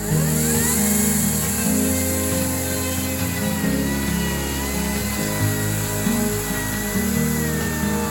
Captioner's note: electric chainsaw sound